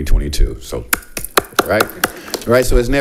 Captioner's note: applauds